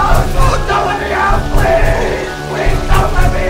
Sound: banging on lid; continued banging

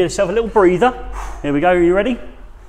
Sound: sighs

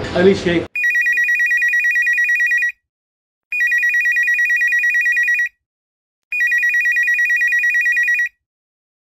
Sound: phone Rings

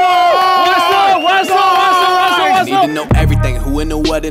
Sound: sound of cheering

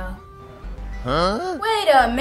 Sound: voice saying huh

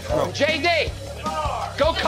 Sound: shouting

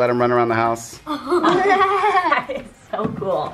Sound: laughing

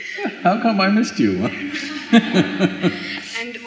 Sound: both laugh

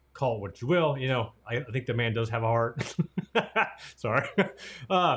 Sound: laughs

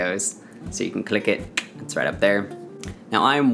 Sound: tongue click

